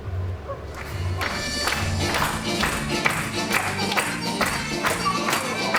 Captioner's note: applause, music